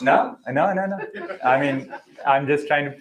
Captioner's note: laughter